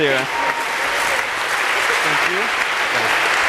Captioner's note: applause